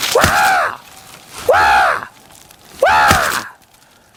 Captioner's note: yelling